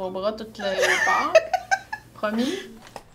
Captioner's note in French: rire